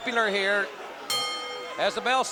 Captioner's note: bell ringing